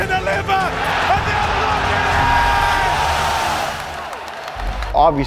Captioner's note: audience cheers